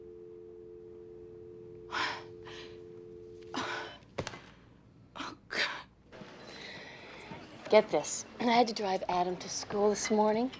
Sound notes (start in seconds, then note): 1.8 sighs